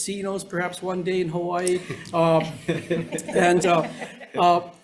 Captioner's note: members laughs